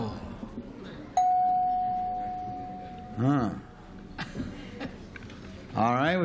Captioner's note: dings